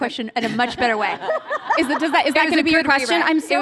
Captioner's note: laughter